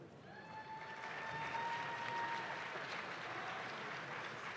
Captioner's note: audience claps